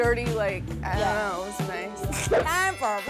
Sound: laughs

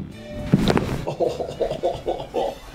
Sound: bones cracking

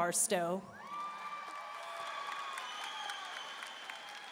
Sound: audience cheering

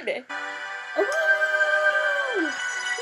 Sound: badly wolf howling

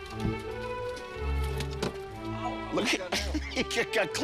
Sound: car door opening

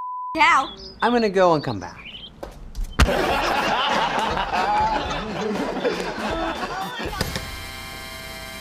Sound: laughter

